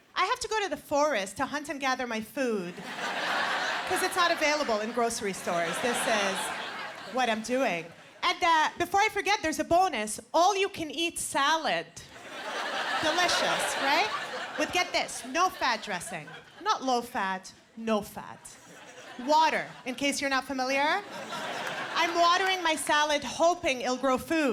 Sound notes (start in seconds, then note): 12.1 laughter